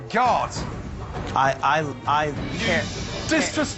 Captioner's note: stammering